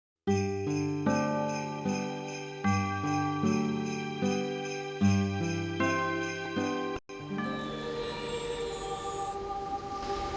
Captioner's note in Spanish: Suenan las campanas